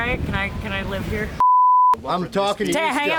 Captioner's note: loud beep